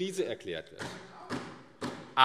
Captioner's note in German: Zuruf